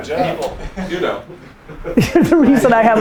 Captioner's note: group laughter